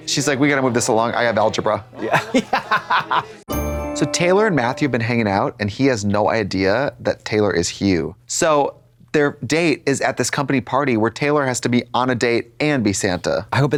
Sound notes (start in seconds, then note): 2.5 Katya har-hars; 3.4 bright chime